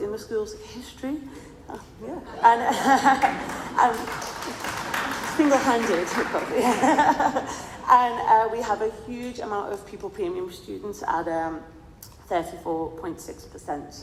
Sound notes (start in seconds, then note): 2.8 crowd cheering and clapping; 5.8 laughs